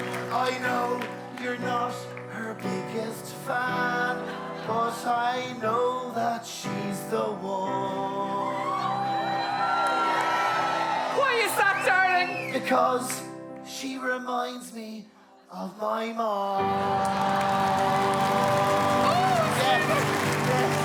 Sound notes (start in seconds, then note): 8.3 crowd cheer